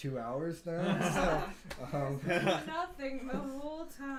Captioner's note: laughing